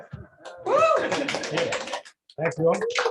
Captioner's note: clapping